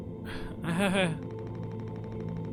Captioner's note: Daisuke laughs nervously